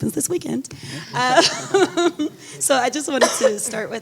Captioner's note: laughing